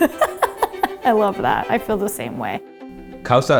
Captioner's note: laughs